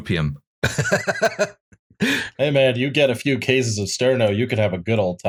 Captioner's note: laughter